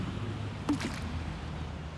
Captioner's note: splash